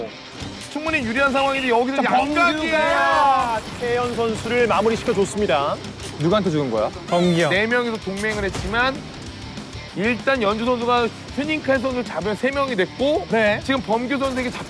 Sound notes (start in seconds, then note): 7.0 crying